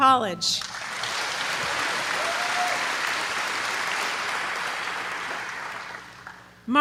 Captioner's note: applause